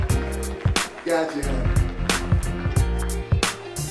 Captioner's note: applause